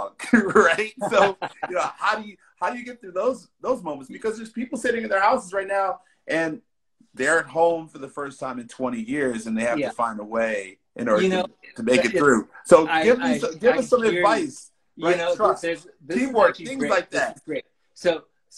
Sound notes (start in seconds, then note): 0.2 laughing